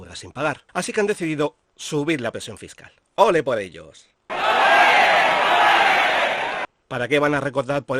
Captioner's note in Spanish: Sonido de ole